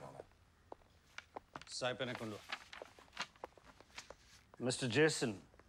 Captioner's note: speaking foreign language